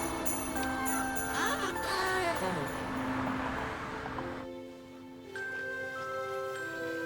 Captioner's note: door squeaking; car whooshing